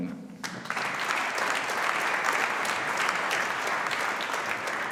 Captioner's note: audience applauding